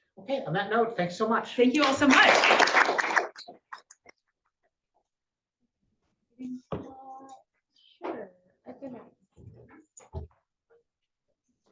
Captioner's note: applause